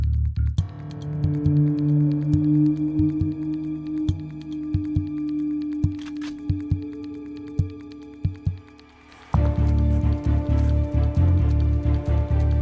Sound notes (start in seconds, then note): 5.8 gun clicks